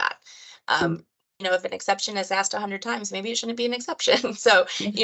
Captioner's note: laughter